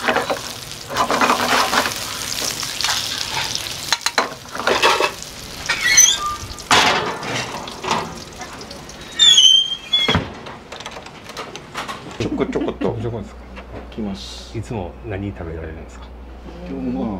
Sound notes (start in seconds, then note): 12.1 laughs